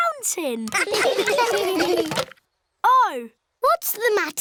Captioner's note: laughter